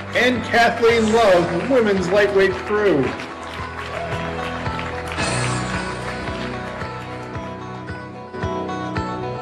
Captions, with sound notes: And Kathleen Love, women's lightweight crew. (audience clapping) (exciting music)